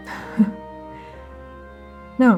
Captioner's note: laughing softly